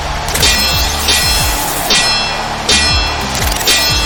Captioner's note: swords clanging